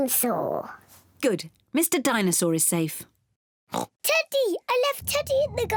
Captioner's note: oinks